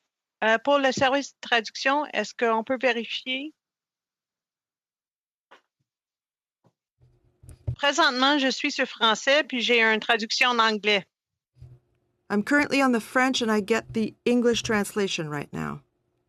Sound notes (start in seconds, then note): 5.6 speaking French